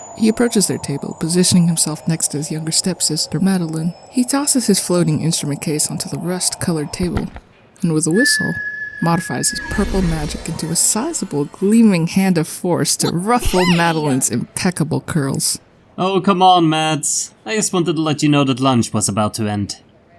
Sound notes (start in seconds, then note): 8.1 whistles